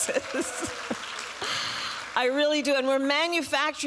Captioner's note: applause